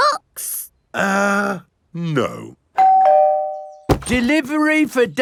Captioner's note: doorbell rings